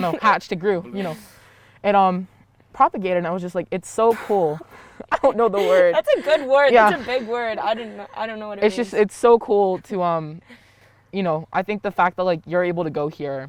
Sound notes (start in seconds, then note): 4.5 laughing